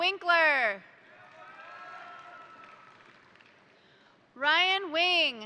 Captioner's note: crowd cheering; crowd applauding